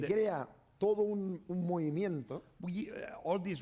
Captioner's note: speaking spanish